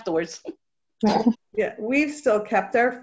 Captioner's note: laughter